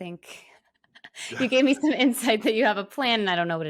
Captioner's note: laughs